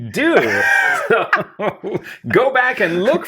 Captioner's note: both laugh